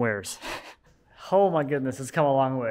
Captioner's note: laughing